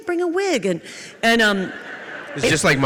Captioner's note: audience laughs